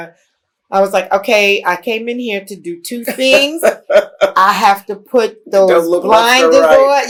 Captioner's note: laughter